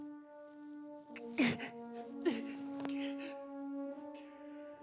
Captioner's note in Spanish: sollozos